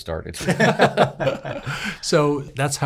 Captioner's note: laughs